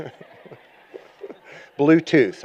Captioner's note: laughter